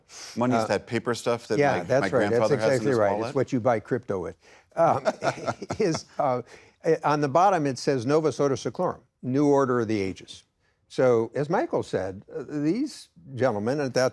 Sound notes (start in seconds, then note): 4.8 laughs